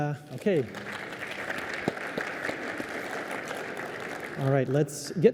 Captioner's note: applause